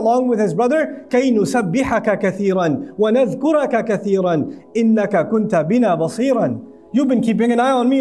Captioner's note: Arabic